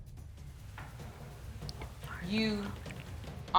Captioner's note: whispers